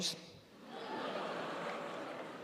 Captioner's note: audience laughing